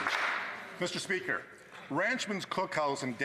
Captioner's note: some Applause